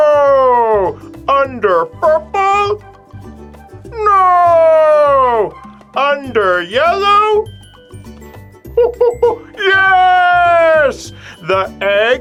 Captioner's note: monkey noises